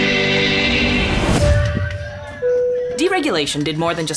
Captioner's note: bell chiming; people chattering